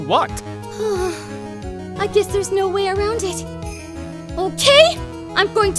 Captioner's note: groan